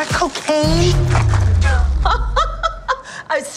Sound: laughing

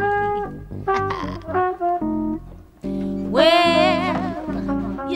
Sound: laughing

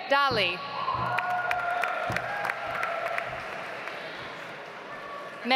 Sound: audience applauds

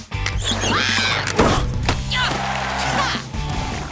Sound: screaming; cheering

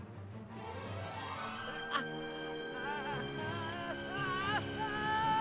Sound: screaming

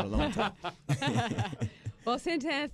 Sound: laughter

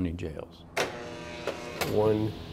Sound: buzz

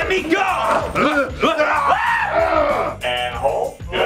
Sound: screaming

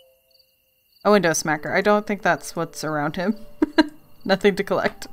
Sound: laughs

